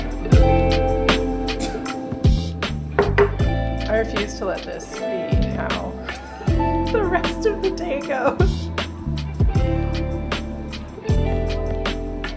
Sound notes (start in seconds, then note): 6.0 laughing